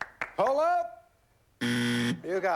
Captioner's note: buzzer